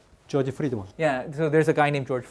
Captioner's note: speaking in Korean